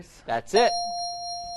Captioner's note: bell dings